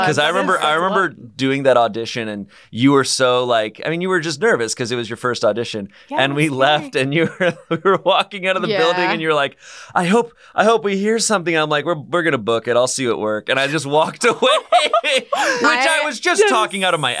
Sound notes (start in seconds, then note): 14.0 laughing